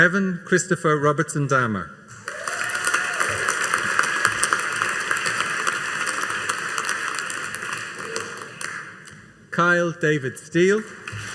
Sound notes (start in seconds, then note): 2.1 audience cheering and applauding